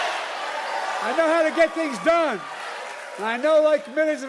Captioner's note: cheering and applause